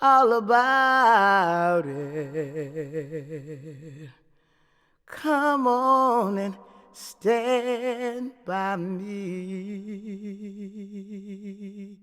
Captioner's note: humming